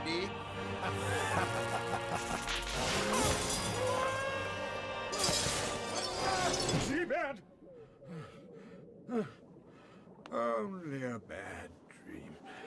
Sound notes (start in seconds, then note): 1.0 evil laughter; 7.7 breathing heavily